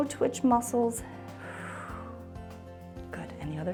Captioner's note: exhales